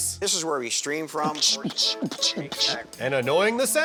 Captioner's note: beatboxing